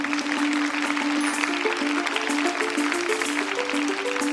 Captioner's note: applause